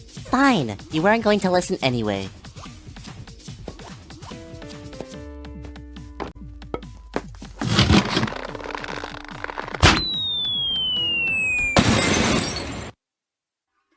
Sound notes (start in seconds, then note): 9.9 descending whirr; 10.8 crash